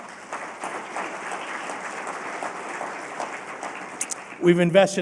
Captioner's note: applause